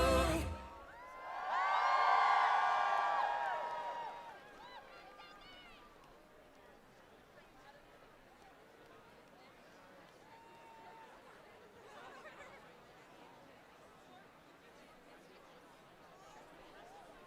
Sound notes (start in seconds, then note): 6.2 applause